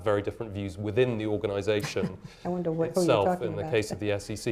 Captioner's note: chuckles